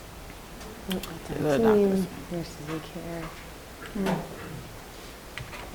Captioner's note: murmur